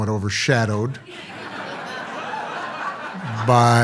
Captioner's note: audience laughs